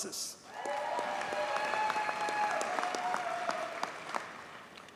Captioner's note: audience cheers and applauds